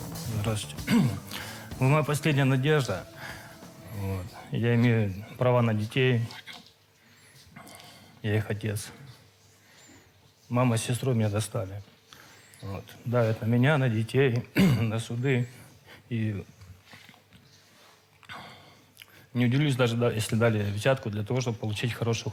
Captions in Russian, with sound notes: Здравствуйте. Вы моя последняя надежда. Вот я имею права на детей, я их отец. Мама с сестрой меня достали. Вот давят на меня, на детей, на суды. [откашливается] И не удивлюсь, даже если дали взятку для того, чтобы получить хорошую